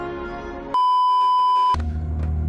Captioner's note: beeeeeeeeeeeep